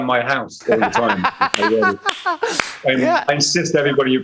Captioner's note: laughs